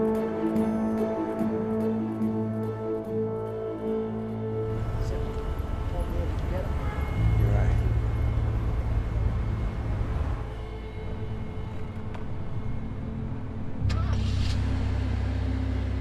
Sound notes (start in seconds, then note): 5.3 Jimmy chattering; 11.5 ominous music